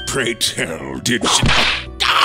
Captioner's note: whip crack!